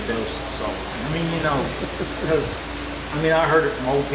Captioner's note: laughing